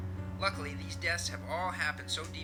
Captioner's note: radio Announcer